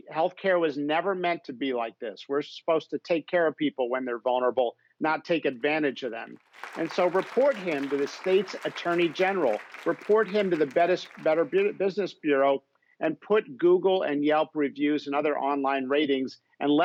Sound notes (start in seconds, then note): 6.4 applause